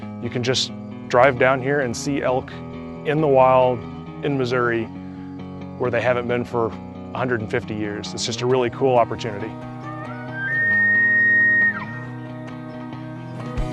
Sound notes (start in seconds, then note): 9.5 elk bugling sound